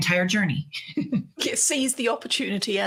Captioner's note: laughing